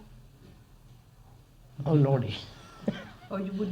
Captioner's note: laughs